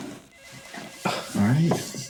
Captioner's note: telephone ringing